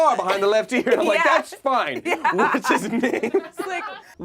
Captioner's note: laughs